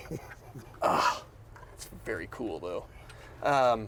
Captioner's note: laughing; groans